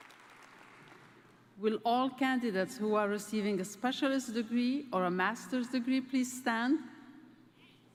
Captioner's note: applause